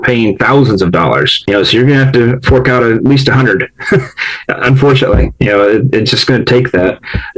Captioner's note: laughs